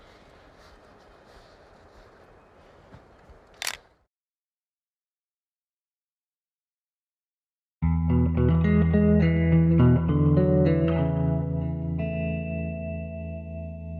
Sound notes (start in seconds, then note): 3.5 camera shutter clicks; 7.8 peaceful music